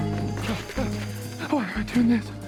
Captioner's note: Homer yells